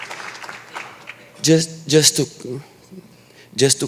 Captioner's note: applause